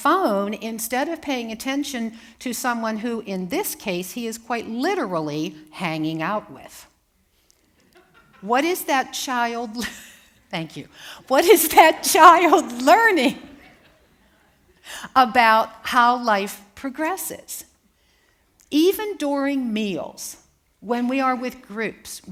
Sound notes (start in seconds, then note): 7.8 laughter; 7.8 laughs